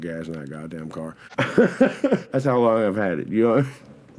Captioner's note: laughs